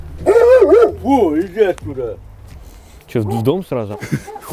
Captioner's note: shouting at the dog